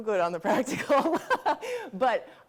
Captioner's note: laughing